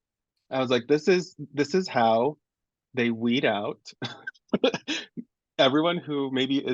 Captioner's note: laughs